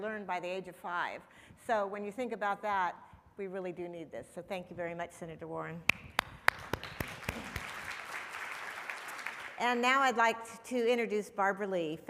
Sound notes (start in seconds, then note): 5.9 applauding; 8.1 audience applauding